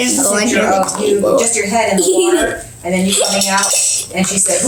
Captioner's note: laughs